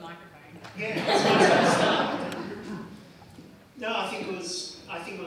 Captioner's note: audience laughs; pat